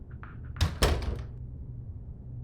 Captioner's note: door opens